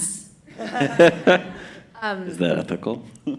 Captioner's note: laughter; laughter